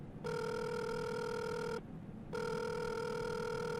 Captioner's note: phone ringing